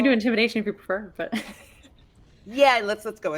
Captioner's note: chuckles